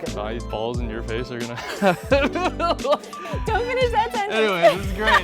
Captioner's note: laughing